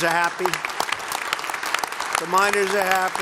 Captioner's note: applause